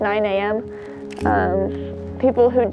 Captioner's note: camera clicks